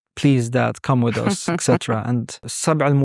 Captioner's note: chuckling; speaking Arabic